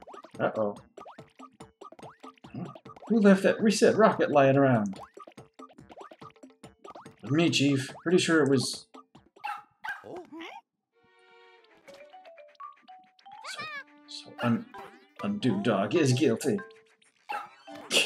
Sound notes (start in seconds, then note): 9.4 Undodog barks; 10.6 confused noises from all; 17.8 chuckles